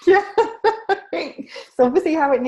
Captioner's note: laughing